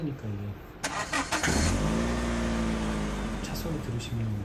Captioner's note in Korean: 부르르릉